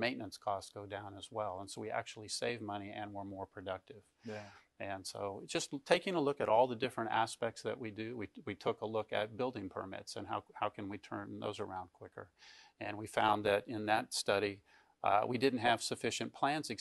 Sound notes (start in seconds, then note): none